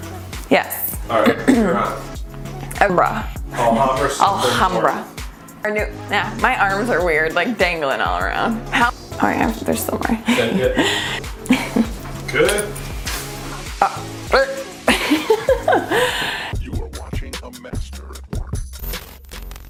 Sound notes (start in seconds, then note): 14.5 laughing